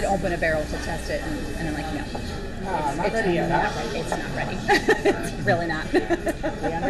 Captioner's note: laughter